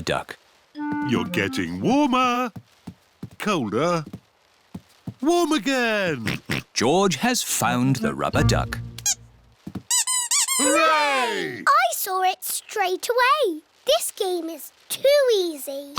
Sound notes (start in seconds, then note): 6.2 oinks; 9.9 duck squeaks